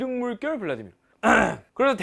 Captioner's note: a clear throat